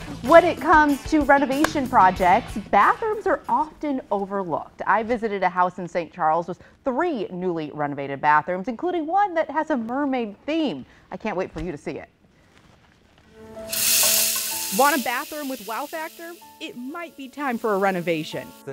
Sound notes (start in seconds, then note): 13.6 sink running